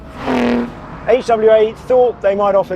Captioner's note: engine revs